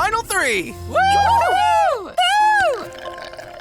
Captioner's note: all cheering